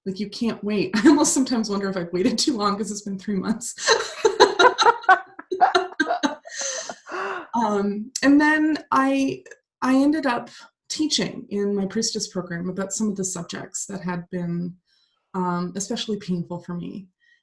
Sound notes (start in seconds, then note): 3.8 laugh